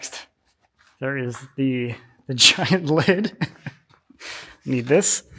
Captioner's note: chuckles